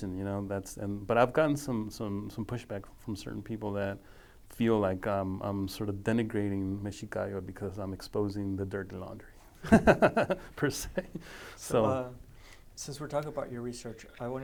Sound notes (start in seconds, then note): 6.2 speaking foreign language; 9.6 laughing